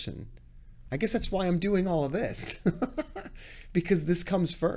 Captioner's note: laughs